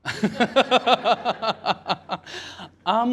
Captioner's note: laughter